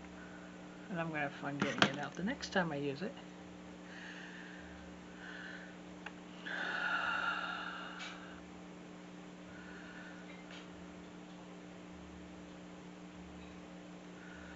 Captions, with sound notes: And I'm gonna have fun getting it out the next time I use it. (long sigh)